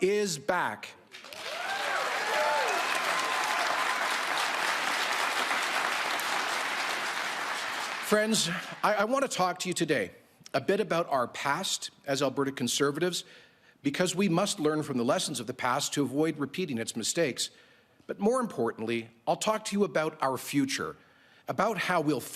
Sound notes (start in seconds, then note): 5.3 cheering and Applause